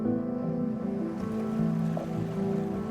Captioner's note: waves crashing, birds chirping